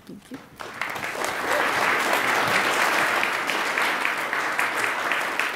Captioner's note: attendees applaud